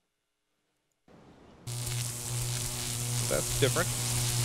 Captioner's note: electricity buzzing